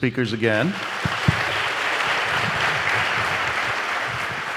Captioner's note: audience applauding